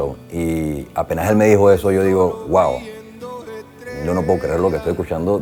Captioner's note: speaking Spanish